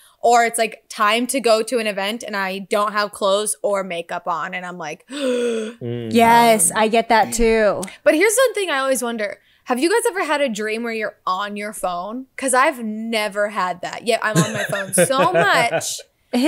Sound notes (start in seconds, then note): 5.1 gasps